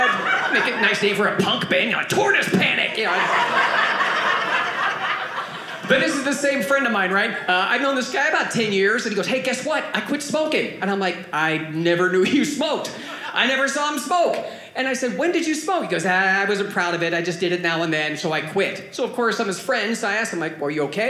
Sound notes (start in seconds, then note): 2.8 audience laughing